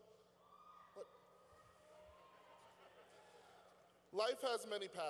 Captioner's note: cheering